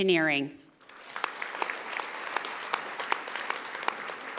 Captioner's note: audience applauding